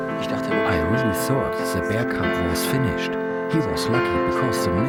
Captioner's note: in German